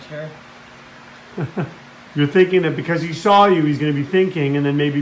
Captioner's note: se ríe